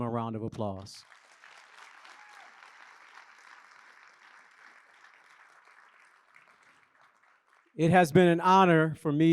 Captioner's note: applause